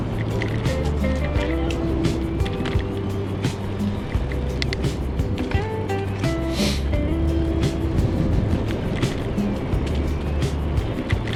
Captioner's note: wind Blowing